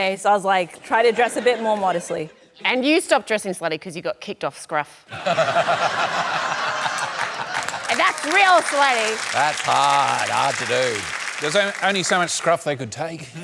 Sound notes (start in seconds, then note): 5.1 laughter